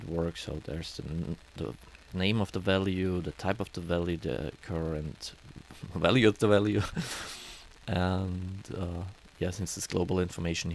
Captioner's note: laugh